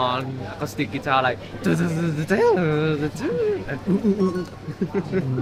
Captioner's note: imitating guitar playing